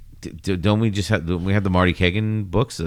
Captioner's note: uh